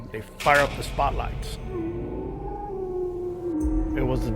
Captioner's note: animal howling